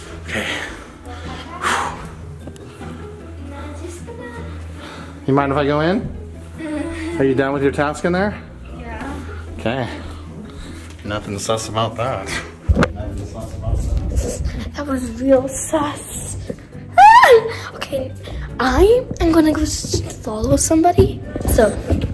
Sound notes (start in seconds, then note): 0.1 sighs; 16.9 shouting